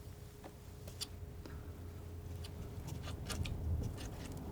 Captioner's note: scratching